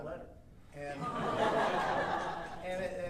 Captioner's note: audience laughing